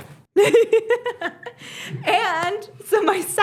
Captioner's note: laughs